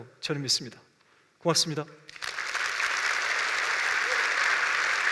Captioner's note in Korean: 박수와 환호